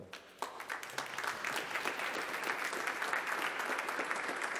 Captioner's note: applause